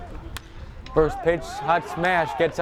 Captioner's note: bat cracks